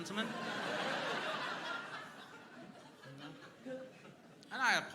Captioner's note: crowd laughing